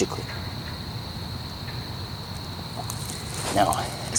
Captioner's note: frogs croaking